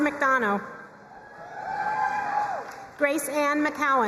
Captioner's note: crowd cheering and applauding